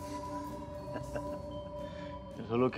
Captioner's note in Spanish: Risas